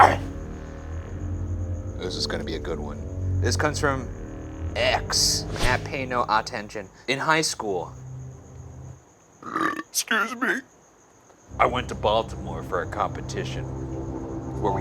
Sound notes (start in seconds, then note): 9.4 belching